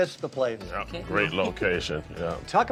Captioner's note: laughs